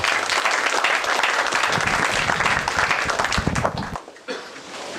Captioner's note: applause